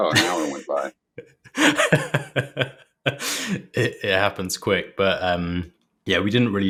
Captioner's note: laughs